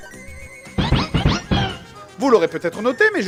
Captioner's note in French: Bruit tricky